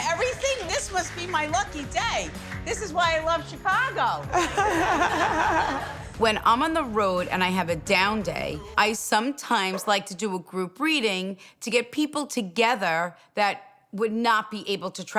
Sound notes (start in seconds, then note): 4.3 group laughs